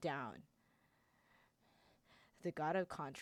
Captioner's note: Childe takes several deep breaths